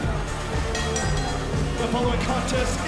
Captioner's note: bell ringing